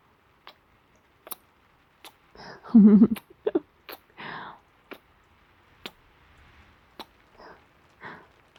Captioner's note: laughing